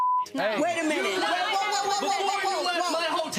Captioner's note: audience oohing